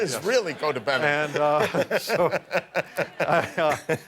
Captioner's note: laughter